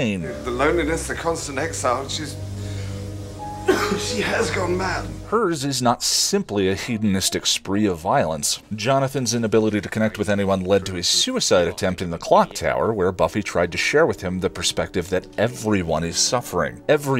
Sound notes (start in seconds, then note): 3.6 coughs British-ly